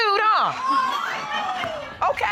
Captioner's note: audience exclaims